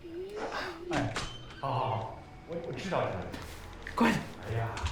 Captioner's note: Jian speaking in Mandarin